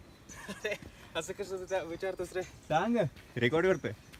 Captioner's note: laughing